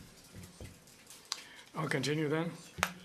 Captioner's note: speaking French